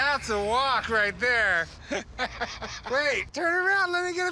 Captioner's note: laughing